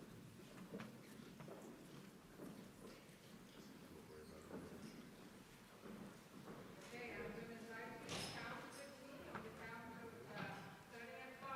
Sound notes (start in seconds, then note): 7.2 speaking away from mic